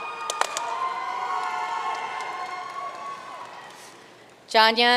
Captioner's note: audience cheering and applauding